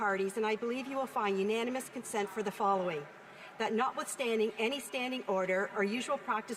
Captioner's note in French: voix de l'interprète